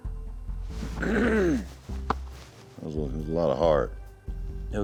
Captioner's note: clears throat